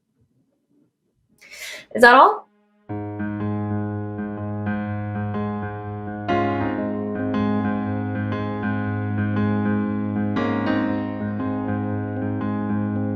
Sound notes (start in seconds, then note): 1.5 inhales; 2.9 gentle piano music